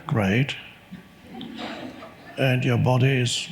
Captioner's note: audience laughs